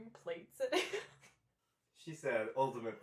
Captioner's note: laughing